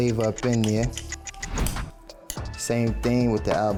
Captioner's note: clock ticks